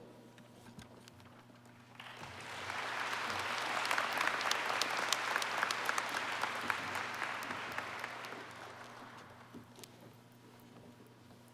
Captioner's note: applause